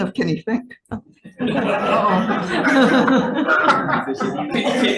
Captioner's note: all laughing